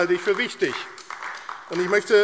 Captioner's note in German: Beifall AfD